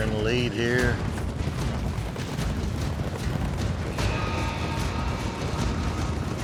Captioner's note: fast hoofbeats